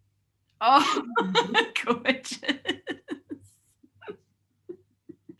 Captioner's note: laughs